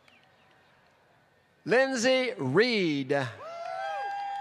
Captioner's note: applause